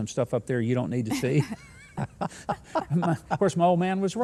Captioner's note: all laughing